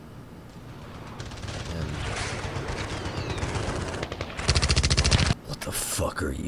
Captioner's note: Sounds of Hell emanating from The Pigeon